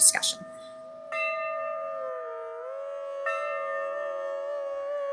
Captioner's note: bells chiming; indian instrumental music